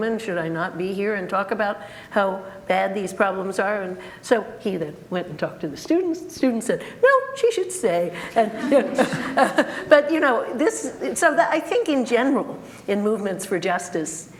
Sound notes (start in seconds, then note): 8.4 group laughter